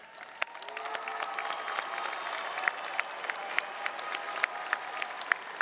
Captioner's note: audience cheering and applauding